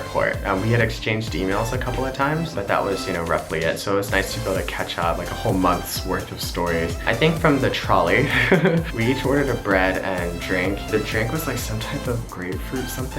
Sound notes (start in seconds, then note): 8.2 laughs